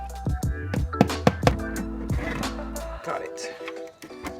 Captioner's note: hammer banging